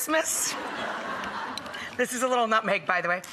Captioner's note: audience laughs